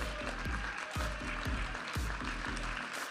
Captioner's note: audience applauding and cheering; upbeat music